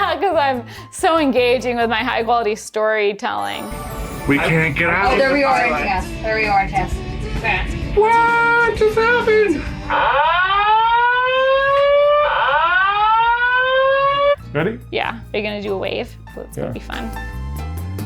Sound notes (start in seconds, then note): 5.4 crowd murmuring; 9.9 siren blaring